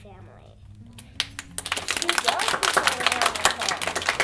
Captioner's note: applause